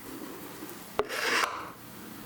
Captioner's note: powerful scraping